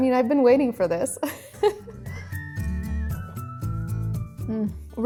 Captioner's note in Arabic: ضحكة ناعمة